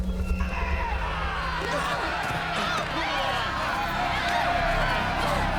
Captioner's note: yelling and cheering